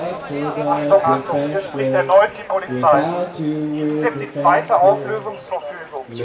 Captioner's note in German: Lautsprecher